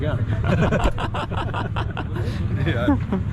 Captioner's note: laughing